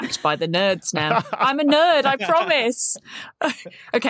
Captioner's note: laughs